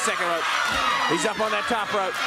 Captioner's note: crowd cheering